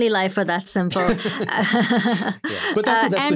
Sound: all laughing

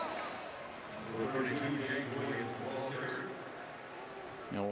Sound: pa announcement

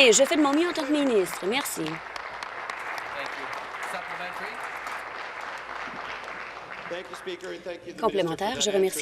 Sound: applause

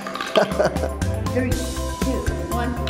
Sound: marbles tap; playful music; laughs

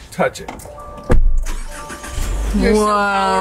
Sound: car engine starts; car door thuds

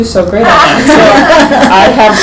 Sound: laughing

